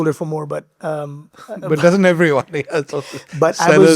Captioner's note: laughing